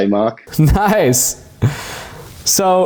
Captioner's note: chuckles